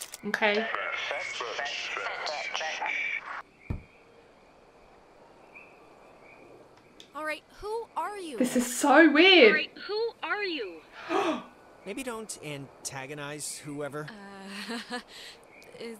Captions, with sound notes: OK. This is so weird. (gasp)